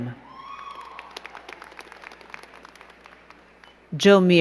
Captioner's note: crowd cheering and clapping